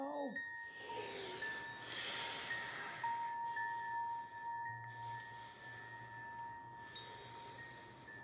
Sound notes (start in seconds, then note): 0.6 Joe breathing heavily